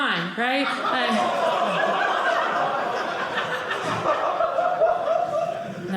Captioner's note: audience laughing